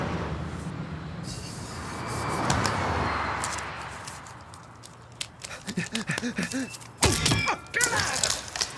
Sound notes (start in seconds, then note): 5.7 panting; 7.8 screams